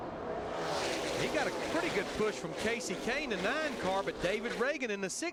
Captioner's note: engines roaring